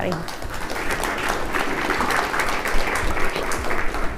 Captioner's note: applause